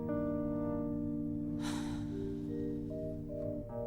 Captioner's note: sighs